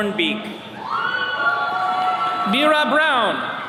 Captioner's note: attendees cheering